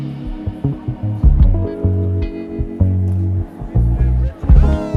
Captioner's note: crowd chattering indistinctly